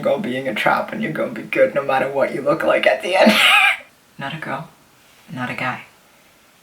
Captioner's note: wheeze